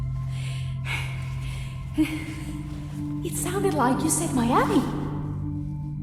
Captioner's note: chuckles